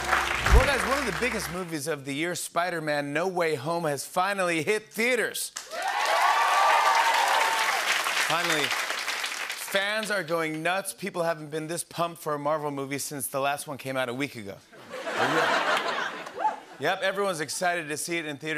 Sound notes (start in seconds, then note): 5.6 cheers and applause; 14.8 laughter